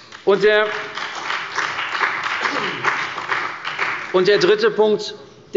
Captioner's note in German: Beifall bei der CDU und dem BÜNDNIS 90/DIE GRÜNEN